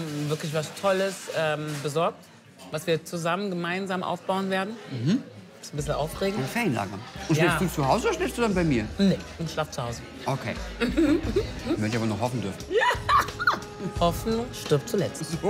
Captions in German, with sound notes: Wir haben wirklich was Tolles besorgt. Was wir zusammen aufbauen werden. - Mhm. Ist ein bissle aufregend. Schläfst du zu Hause oder bei mir? - Ich schlaf zu Hause. Okay. Werd ja noch hoffen dürfen. - (lacht:) Ja! Hoffnung stirbt zuletzt. - Ist so!